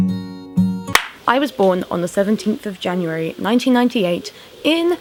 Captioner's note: clap of hands